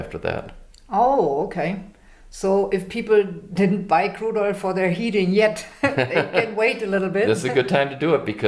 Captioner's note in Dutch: Lachen